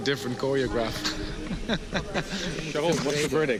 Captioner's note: laughs